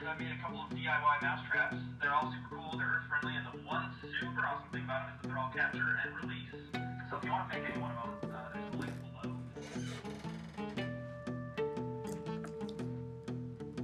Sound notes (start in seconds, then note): 9.4 speaks faintly; 10.5 gentle upbeat music